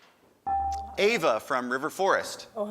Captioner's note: buzzer dings